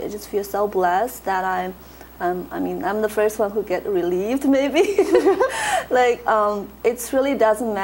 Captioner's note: laughs